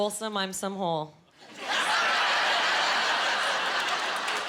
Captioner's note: laughing